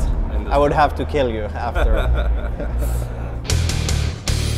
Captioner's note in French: rires